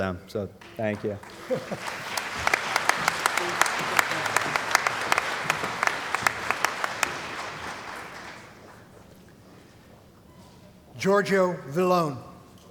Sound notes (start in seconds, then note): 2.2 applause